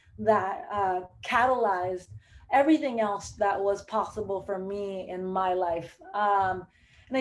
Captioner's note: none